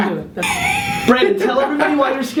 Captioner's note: laughs